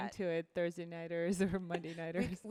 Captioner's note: laughs